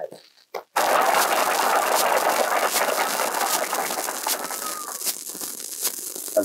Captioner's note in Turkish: Alkışlar